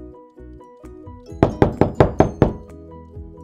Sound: door knocking

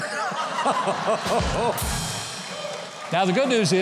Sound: audience laughing

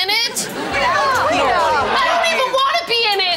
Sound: none

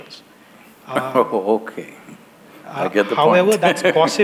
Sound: laughs

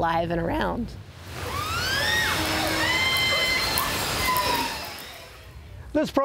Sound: orcas chirping

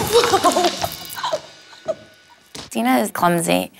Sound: laughing

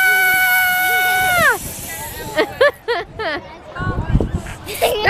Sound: both laughing

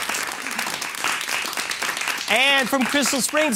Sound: applause

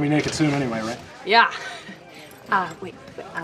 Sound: chuckles

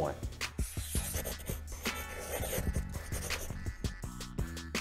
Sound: pencil scribbling; upbeat music

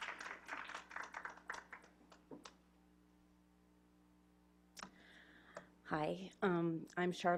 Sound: clapping

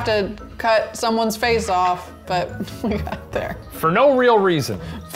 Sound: laughs

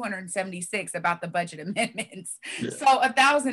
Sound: laughs

